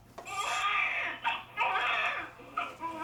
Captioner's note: baby mannequin cries